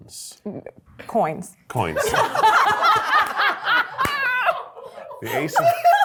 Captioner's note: cast and crew laughing